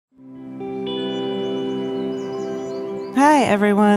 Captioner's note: gentle music; birds chirping